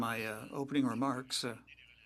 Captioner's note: speaking French